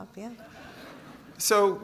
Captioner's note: audience chuckles